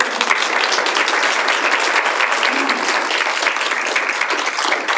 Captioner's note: audience applauds